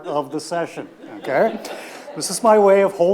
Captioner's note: audience laughs